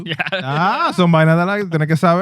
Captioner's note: speaking In Foreign Language